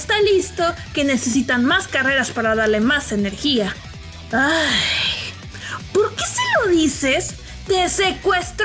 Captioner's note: sigh